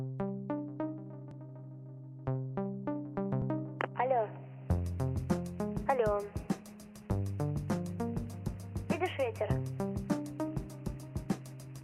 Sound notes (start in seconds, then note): 0.2 upbeat music; 4.2 woman speaking in foreign language